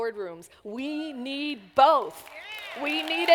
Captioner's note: applause